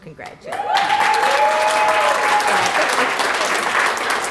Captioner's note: applause